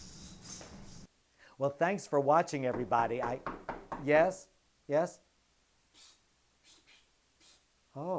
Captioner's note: knock at the door